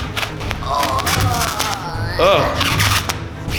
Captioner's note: gruesome gurgling